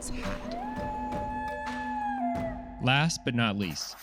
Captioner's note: coyote howls